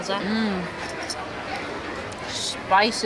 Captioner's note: appreciative noises